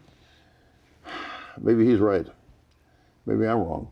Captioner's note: sighs